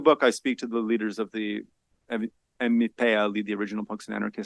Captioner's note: speaks foreign language